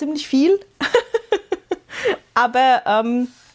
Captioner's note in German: gelächter